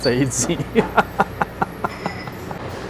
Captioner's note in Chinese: 笑聲